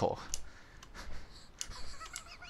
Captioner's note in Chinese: 大笑